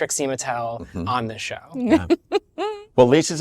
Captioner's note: lisa laughs